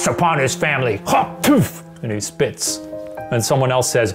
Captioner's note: spit noise